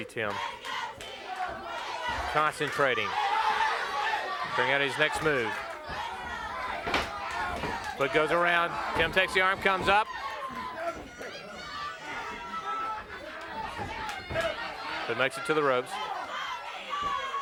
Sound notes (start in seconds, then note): 6.5 footsteps plodding